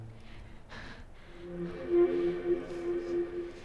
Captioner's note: breathing nervously